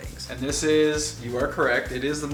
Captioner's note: male Voice